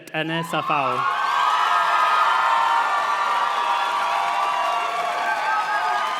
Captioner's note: audience cheers and claps